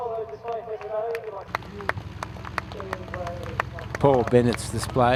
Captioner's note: applause